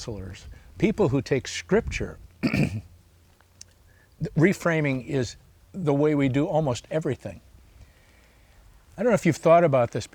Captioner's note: clears throat